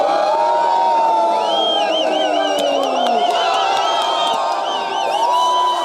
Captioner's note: cheering